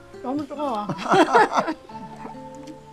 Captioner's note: both laughing